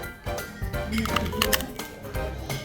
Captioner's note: crunch